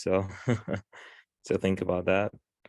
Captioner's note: laughs